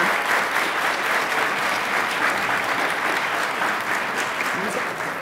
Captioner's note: attendees applauding